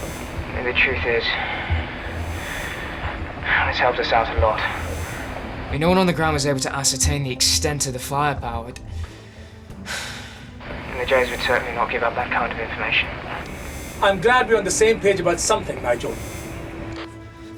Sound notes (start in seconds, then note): 9.8 sigh